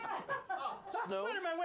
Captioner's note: laughter